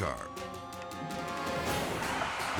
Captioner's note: dramatic music; sirens blaring; car crashes